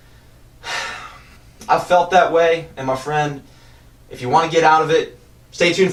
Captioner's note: sigh